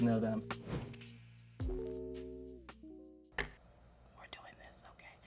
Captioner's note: wind whooshes